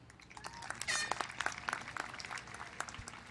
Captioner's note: applause